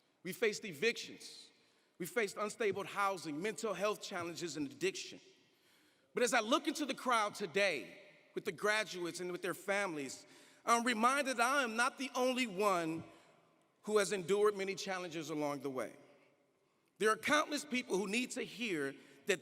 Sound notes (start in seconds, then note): none